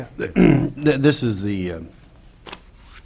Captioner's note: clears throat